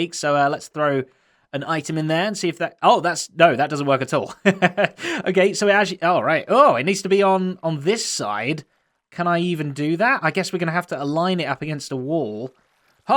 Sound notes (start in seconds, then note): 4.2 chuckles